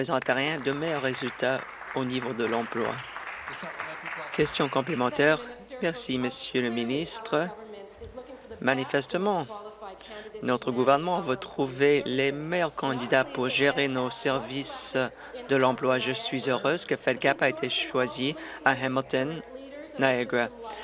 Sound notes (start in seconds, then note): 3.9 applause